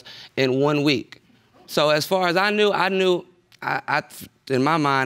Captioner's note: stammers